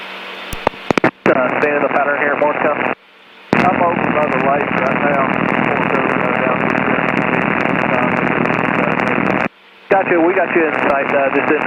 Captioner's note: staticky radio chatter